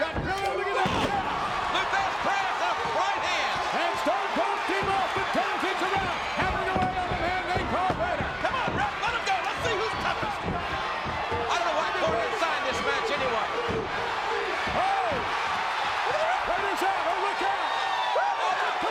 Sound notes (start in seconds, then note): 14.8 audience cheers